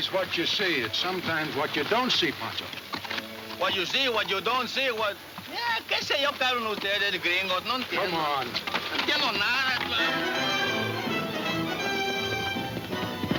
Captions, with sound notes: it's sometimes what you don't see, Pancho. - What you see, what you don't see, what? (speaking Spanish) - Come on. (exciting orchestra music)